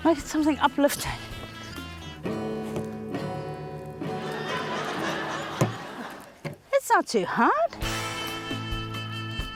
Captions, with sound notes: Make it something uplifting. - (STRUMS CHORD) (LAUGHTER) - That's not too hard.